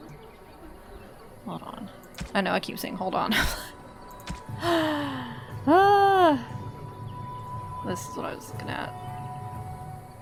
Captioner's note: laughs